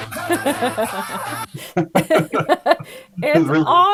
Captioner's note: laughing